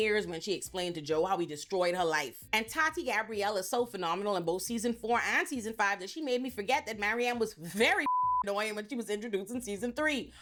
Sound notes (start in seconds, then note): 8.0 beep